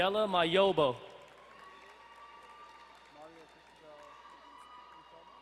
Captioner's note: distant cheering